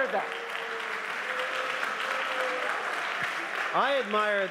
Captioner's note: applause